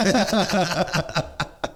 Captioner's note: laughing